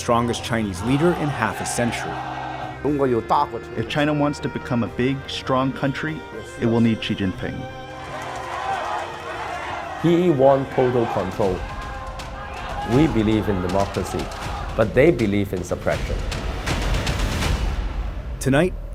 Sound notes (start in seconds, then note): 3.4 speaking foreign language; 8.6 people yelling in foreign language; 16.8 dramatic music